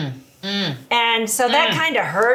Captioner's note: moans